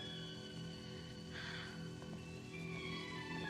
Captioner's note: sighs